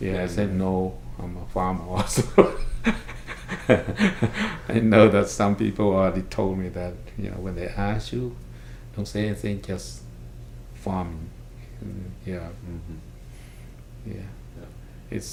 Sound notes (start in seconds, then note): 4.9 laughs